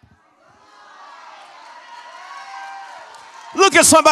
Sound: congregation shouts

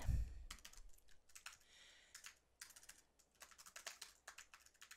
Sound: keyboard clanking

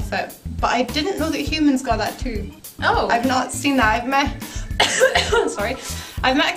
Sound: cough

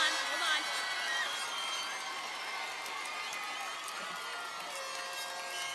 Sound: cheers and applause

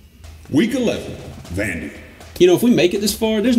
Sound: automated Voiceover

